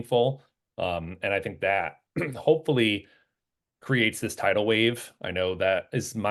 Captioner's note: cough